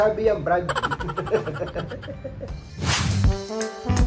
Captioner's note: laugh